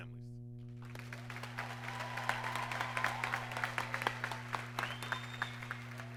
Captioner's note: audience applauds and cheers